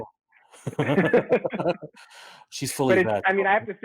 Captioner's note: light laughter